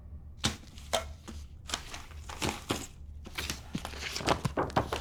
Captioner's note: crunching